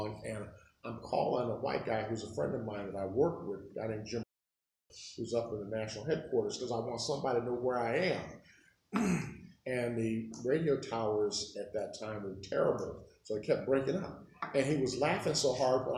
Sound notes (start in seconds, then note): 8.9 clears throat; 13.5 phone